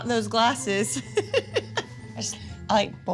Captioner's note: laughs